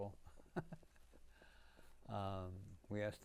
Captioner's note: laughing